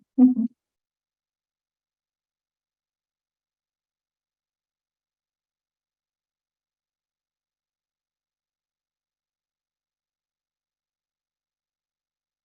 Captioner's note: silence